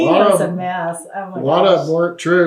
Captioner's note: laughter